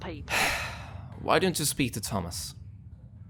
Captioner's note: sighing